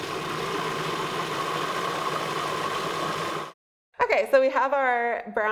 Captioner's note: food processor whirring